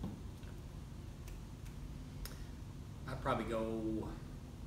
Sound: none

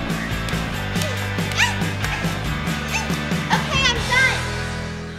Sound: slaps thudding; Harley grunting

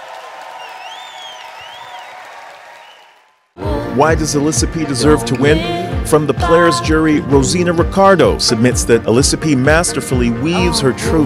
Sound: cheers and applause

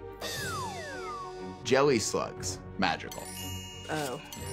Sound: magical chime

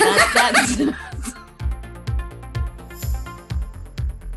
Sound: Jodie and Andrea laugh

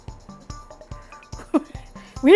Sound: laughs

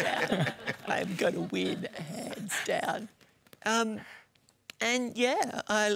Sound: laughter

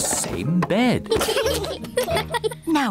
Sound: both giggle

